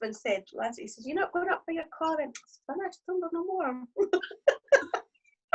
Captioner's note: mumbles; both laugh